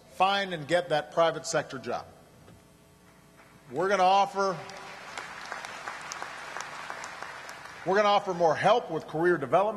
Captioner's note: applause